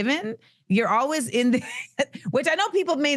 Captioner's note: chuckling